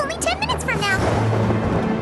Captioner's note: thunderclap